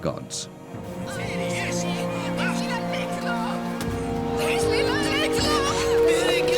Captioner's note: Biricrit shouting in foreign language; Mago shouting in foreign language